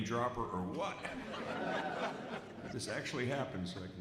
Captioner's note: audience laughs